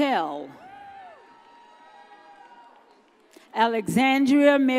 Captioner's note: audience cheers